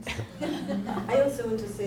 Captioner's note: laughter